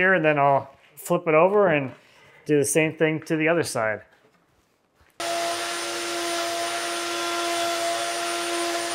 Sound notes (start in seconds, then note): 5.2 machine whirring